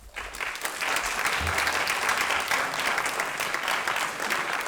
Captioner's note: applause